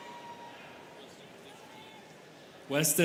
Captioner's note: students cheering; students chattering